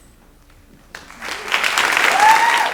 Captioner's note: audience applauding